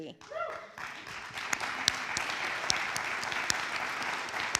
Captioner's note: audience applauds